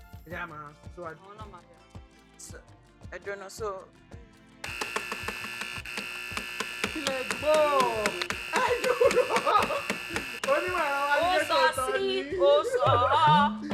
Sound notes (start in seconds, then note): 4.6 buzzer pressed; 9.7 laughs